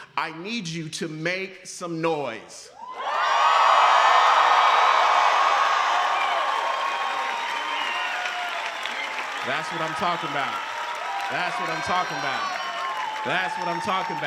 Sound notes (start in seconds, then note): 3.8 applause